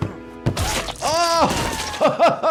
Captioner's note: tray thudding; Cuddles squishing; laughs